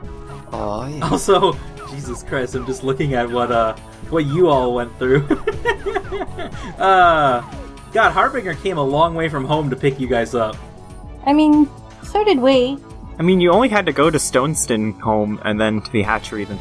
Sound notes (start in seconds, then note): 4.2 laughs